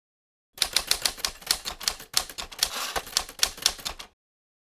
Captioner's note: typewriter clacking